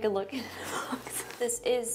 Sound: iJustine laughs

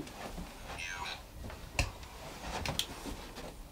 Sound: robot Voice

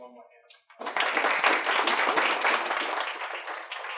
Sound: applause

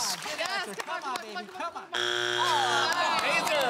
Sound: buzzer sounds

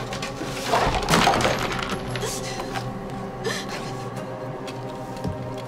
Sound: bullets clatter against the floor

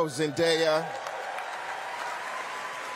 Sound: cheering; applause

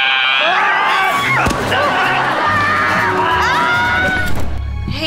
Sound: screaming

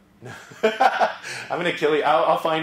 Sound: laugh

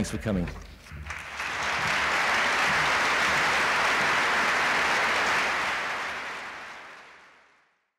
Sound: applause

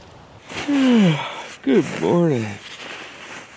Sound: yawns

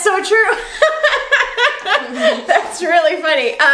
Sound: laughing

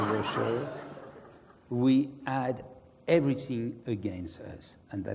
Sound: laugh

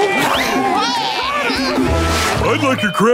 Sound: cheering

